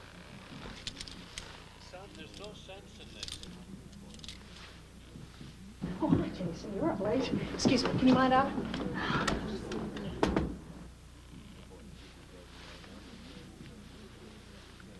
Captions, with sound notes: (handcuffs clicking) - Son, there's no sense in this. - Oh, hi, Jason. You're up late. Excuse me. Can you mind that? (knocks on glass)